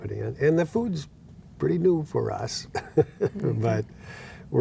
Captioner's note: laughing